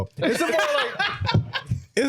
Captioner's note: laughing